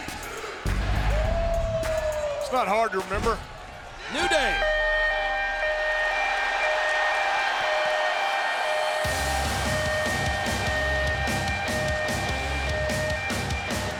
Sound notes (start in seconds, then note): 5.2 siren blares